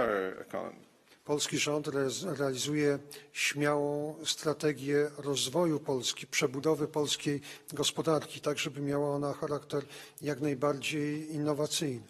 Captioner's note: speaking polish